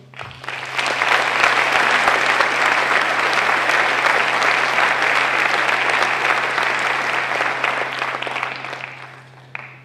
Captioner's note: applause